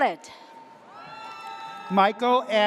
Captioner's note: audience cheers